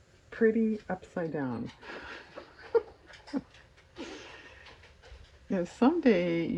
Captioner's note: laughs